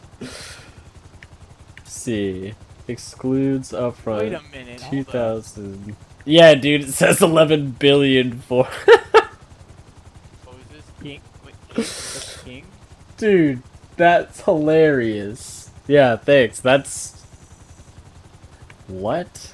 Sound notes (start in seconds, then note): 8.6 laughs